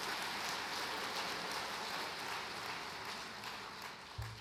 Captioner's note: applause